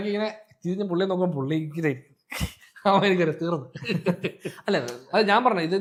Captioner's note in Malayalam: പൊട്ടിച്ചിരി